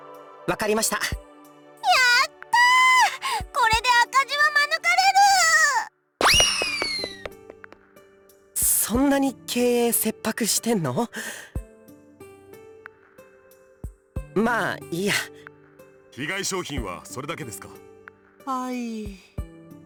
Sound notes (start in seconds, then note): 12.5 silence